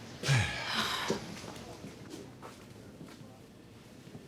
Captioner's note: both sigh loudly